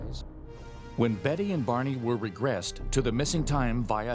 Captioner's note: voiceover